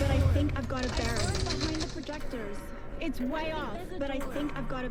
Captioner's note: dialogue echoes